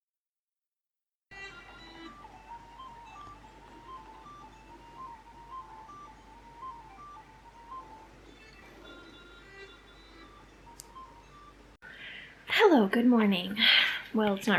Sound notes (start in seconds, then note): 1.4 celtic pub ambience